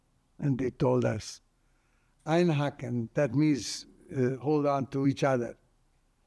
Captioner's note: german